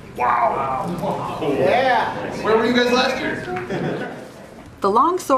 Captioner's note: laughter